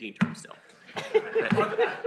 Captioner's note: laughter